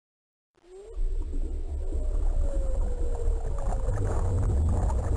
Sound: 32-bit mysterious creature and swamp noises

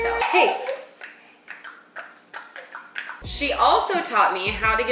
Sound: tongue clicking

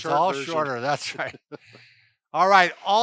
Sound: laughs

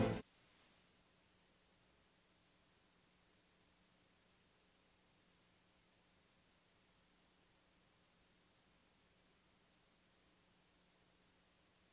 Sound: applause

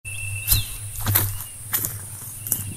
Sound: footsteps

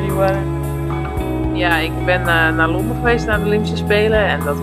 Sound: speaking foreign language

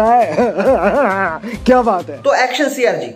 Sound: maniac laugh

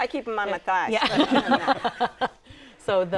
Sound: laughter

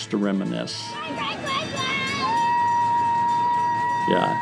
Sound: train clanging, kids cheering

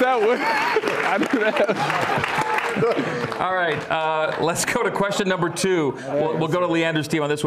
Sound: cheers and applause; laughter

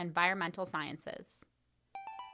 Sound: chime

